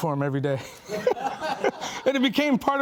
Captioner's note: laughing